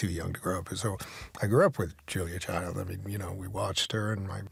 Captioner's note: none